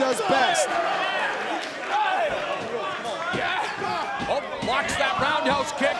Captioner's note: crowd cheering; wrestlers shouting